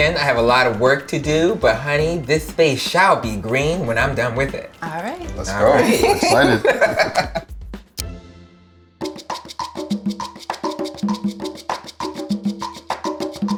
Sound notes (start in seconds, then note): 5.4 laughs; 9.0 upbeat percussion music